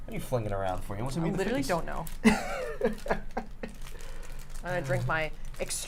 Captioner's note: laughs